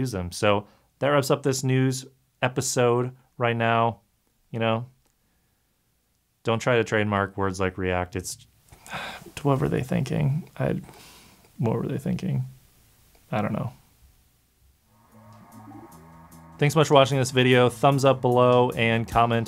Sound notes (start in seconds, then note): 8.8 irritated exhale; 14.9 instrumental music